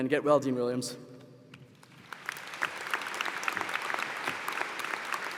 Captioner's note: applause